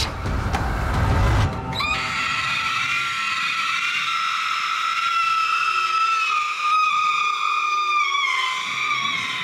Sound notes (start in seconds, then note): 1.8 Lydia screams